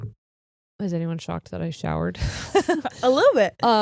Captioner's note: laughing